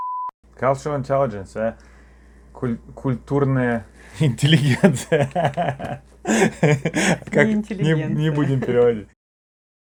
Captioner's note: laughter